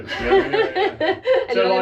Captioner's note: laughter